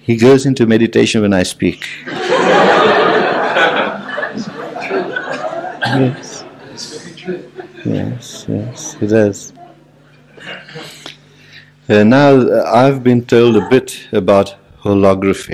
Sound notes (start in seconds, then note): 2.0 general laughter